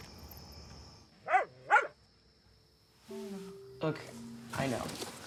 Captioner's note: dog barking